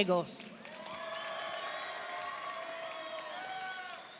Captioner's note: audience cheering